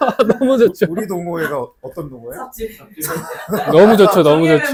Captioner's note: laughter